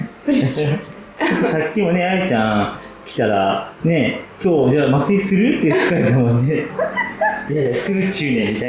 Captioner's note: laughter